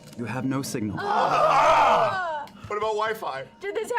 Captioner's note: groaning